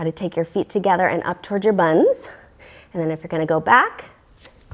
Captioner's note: deep breathing sounds